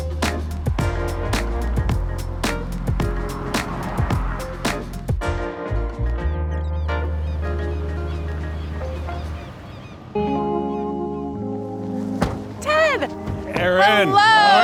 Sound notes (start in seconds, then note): 0.2 upbeat music; 2.5 car whooshes; 6.0 upbeat music; 7.2 seagulls squawking; 10.0 gentle upbeat music